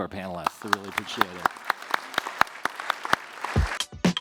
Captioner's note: applause